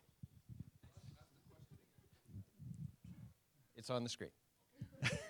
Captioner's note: voiceover